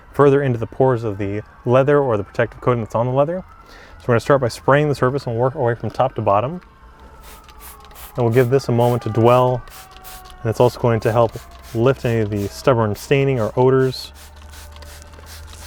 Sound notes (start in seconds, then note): 7.2 bottle spraying